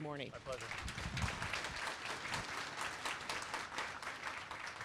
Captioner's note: applause